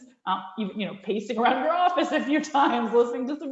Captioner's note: laughs